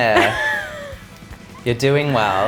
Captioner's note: laughs